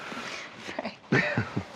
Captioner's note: both laughing